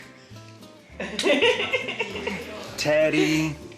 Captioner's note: laughs